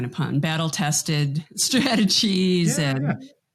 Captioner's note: chuckles